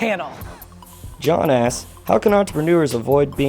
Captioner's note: voiceover